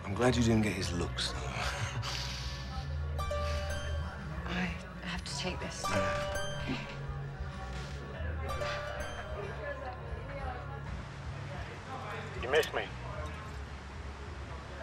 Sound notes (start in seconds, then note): 3.2 phone chimes